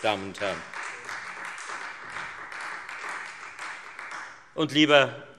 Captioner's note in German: Beifall Freie Demokraten